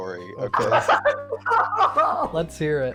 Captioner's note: laughs hysterically